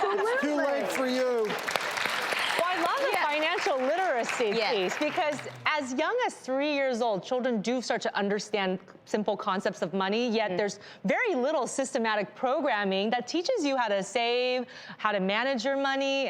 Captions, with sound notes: Absolutely! Too late for you! (applause) I love the financial literacy piece because as young as three years old, children do start to understand simple concepts of money yet there's very little systematic programming that teaches you how to save, how to manage your money,